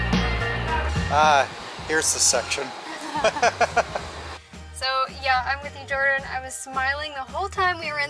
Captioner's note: laughs